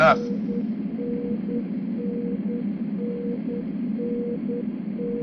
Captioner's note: machine beeping